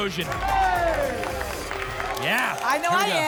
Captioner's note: applause and cheering